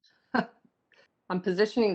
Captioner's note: laughs